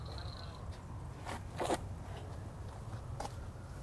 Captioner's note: speaking faintly